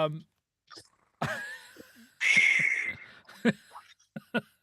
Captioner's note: laughing